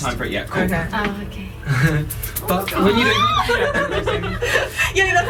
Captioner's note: cheering